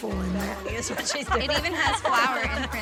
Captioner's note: everyone chuckles